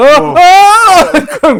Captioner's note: screaming